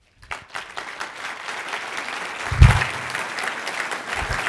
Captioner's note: cheers and applause